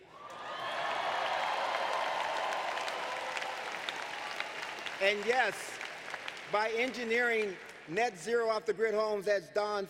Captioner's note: applause